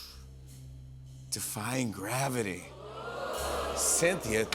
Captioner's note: audience oohs